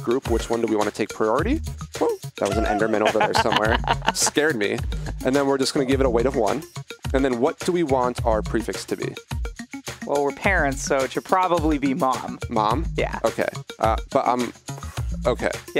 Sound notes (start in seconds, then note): 2.4 laughs; 4.1 laughing